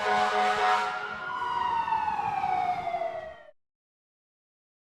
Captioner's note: horn honking; sirens blaring